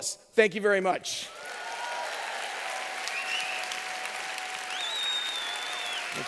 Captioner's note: applause